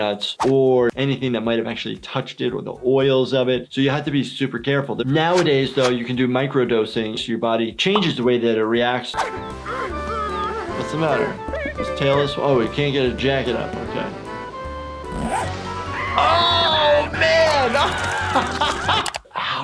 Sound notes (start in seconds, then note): 9.1 indistinct chatting; 15.9 Handy screaming; 17.7 laughing